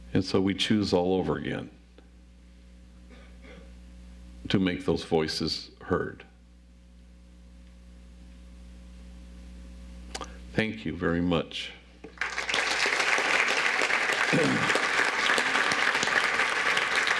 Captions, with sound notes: And so we choose all over again to make those voices heard. Thank you very much. (audience applauds)